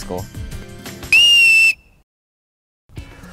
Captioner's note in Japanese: ホイッスルの音